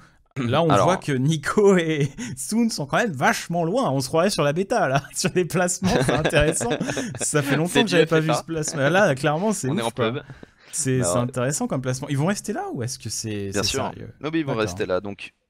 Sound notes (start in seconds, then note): 9.2 laughs